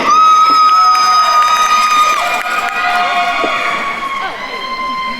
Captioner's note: attendees cheering and applauding